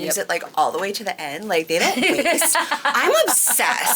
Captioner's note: laughing